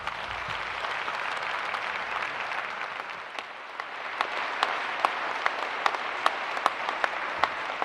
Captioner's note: applause